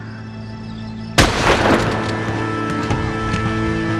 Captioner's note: gun fires